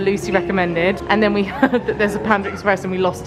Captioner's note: laughs